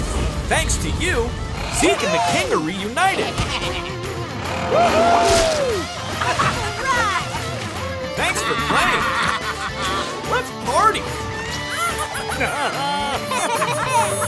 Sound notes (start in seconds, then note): 8.1 laughing